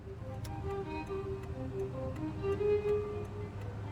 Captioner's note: turn signal clicking